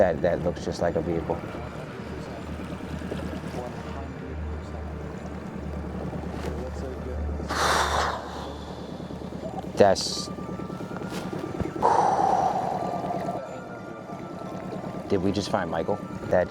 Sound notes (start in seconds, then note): 11.8 exhales audibly